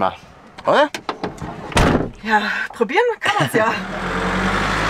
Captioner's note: laughter